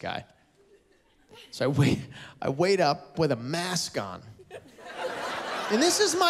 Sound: laughter

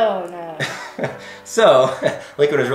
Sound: laughs

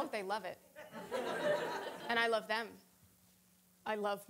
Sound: audience laughing

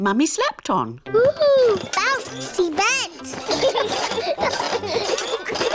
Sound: children laugh

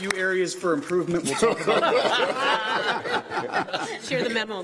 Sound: applause

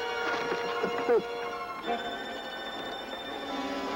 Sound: Lin moaning

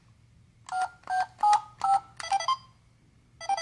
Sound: beeping

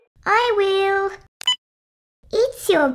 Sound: beep!

